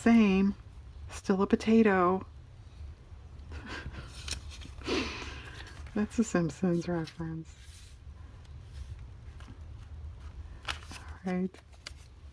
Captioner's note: laughs